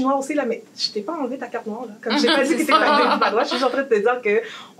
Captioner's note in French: rires